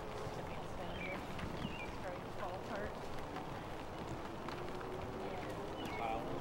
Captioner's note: chickens clucking and indistinct chatter